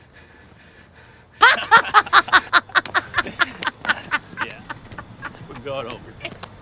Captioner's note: MAN and WOMAN cackle loudly